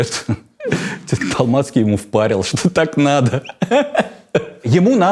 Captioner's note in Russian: смеётся